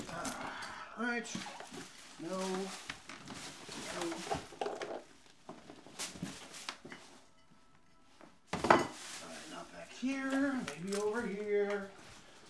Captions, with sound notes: Alright... [Objects ruffle] Not back here, maybe over here...